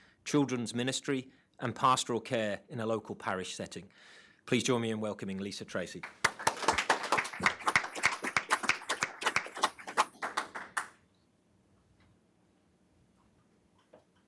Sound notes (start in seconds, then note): 6.0 everyone applauds